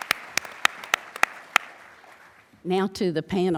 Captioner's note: applause